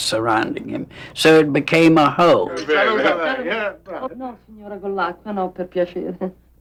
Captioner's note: speaking foreign language